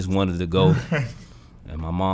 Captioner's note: Quentin laughs